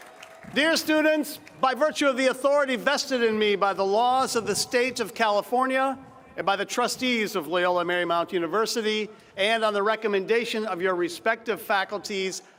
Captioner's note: cheers and applause